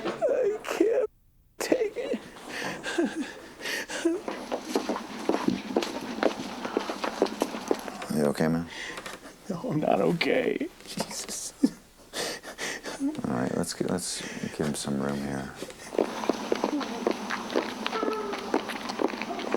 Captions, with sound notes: I can't take it. [sobbing] Are you OK, man? I'm not OK. Jesus. [whimpers] All right, let's-- let's give him some room here. [sobbing]